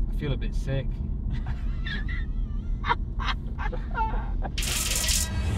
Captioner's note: laugh